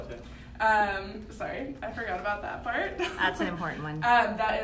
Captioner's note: laughs